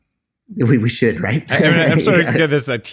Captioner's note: laughs